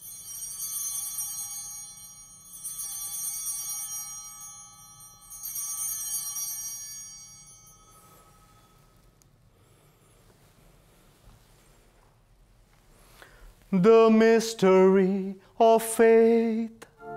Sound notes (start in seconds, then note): 0.0 bell ringing; 5.5 ringing continues